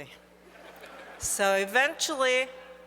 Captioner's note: audience laughs